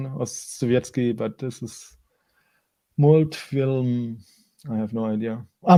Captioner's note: speaking in foreign language